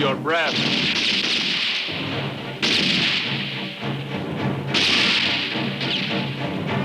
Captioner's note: dramatic music continues; guns roaring